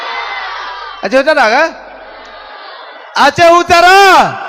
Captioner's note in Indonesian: bersorak